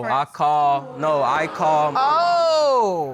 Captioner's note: audience exclaiming